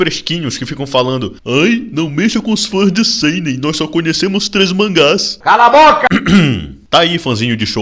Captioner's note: cough